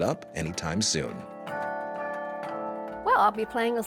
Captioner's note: bells ringing